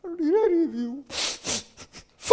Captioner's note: sniffling